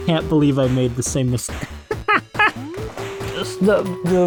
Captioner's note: laughter